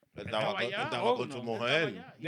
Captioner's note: speaking In Foreign Language